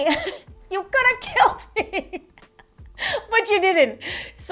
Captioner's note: laughs